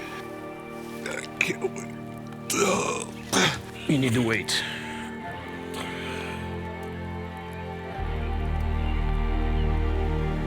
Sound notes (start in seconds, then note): 2.5 James groans; 5.8 soft music